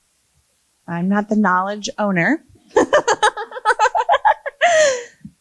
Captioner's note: laughs